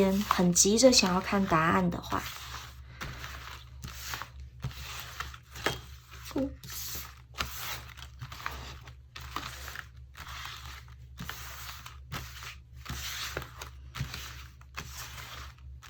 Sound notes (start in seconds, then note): 2.5 shuffling